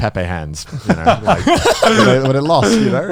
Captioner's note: hosts laughing